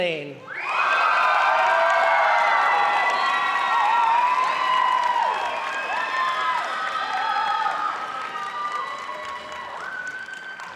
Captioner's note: applause